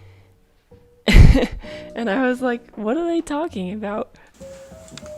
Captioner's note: chuckles